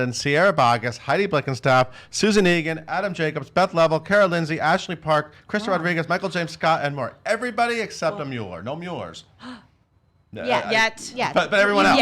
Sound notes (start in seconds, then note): 9.4 gasps